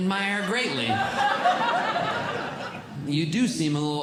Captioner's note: audience Laughing